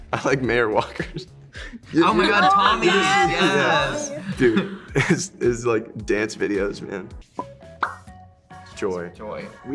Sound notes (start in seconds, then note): 1.5 laughing